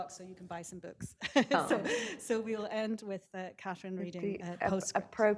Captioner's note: chuckles